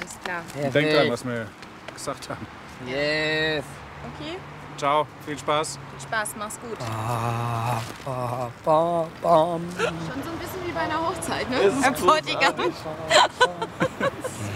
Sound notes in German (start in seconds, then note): 8.6 summt Hochzeitsmarsch